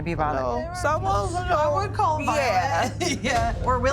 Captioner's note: laughs